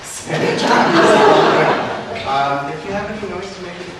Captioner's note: all laugh